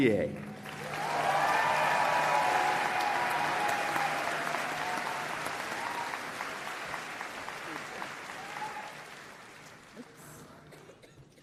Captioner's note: applause and Cheering